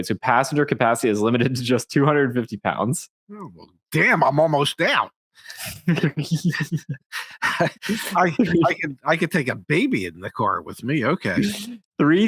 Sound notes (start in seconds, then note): 5.6 laughing